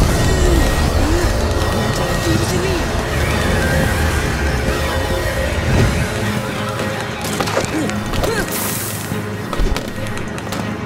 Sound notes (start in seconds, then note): 2.7 screaming continues